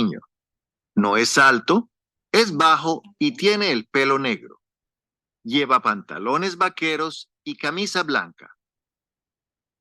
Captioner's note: speaking spanish